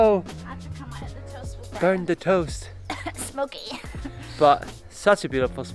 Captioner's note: coughs